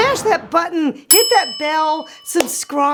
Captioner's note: bomb exploding; bell chiming; claps